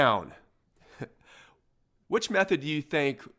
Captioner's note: chuckling